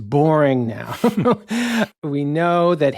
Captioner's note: chuckling